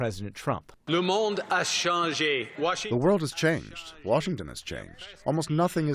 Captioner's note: through translator